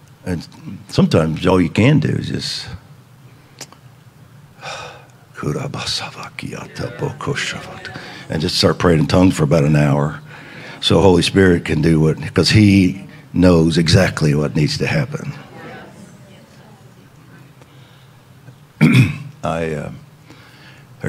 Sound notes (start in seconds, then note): 5.4 speaking in tongues